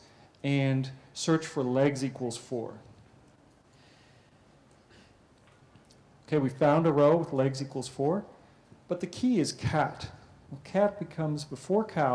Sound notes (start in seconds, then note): 2.7 pause